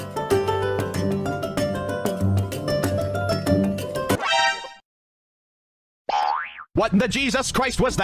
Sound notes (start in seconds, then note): 0.2 alerted noise; 4.0 boing